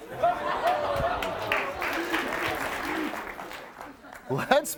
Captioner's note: audience clapping